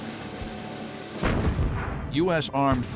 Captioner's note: explosion